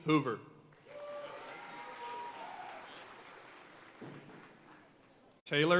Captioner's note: audience cheering and applauding